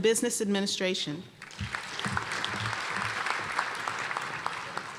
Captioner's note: applause